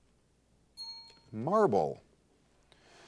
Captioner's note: bell rings